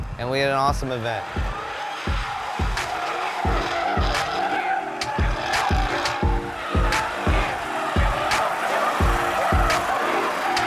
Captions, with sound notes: and we had an awesome event. (upbeat music) (engine revving)